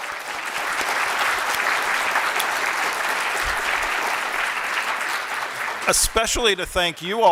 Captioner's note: applause